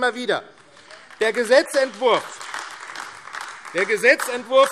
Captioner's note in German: Beifall AfD